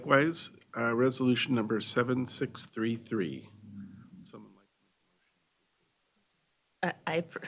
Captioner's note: chorus of ayes